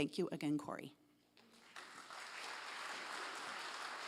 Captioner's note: applause